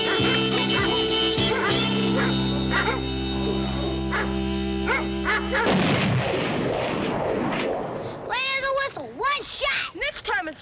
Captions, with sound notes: [gun shot] Clean as a whistle, one shot. Next time it's my turn.